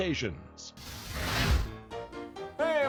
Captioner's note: flame whooshing; piano playing